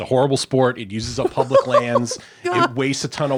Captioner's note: laughing